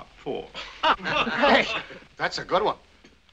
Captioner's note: all chuckling